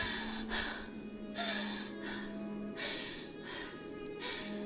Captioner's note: Connie gasps